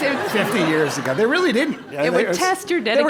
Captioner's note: laugh